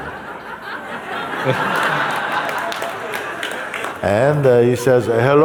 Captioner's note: laughter and some clapping